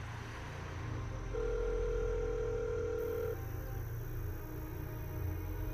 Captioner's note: phone dialing